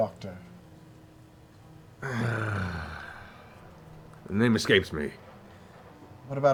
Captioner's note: sighs